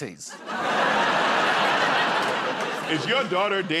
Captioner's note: laughter